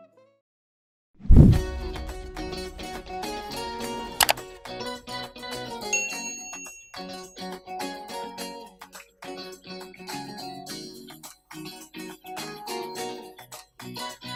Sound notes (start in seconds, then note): 1.5 upbeat pop music; 4.2 mouse clicking; 5.9 bell dinging